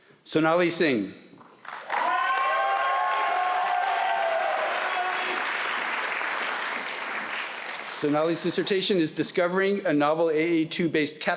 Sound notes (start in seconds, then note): 1.5 applause